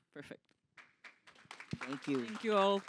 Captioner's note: applause